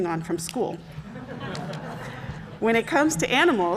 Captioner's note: congregation laughing